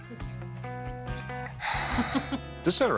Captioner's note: sighs; chuckles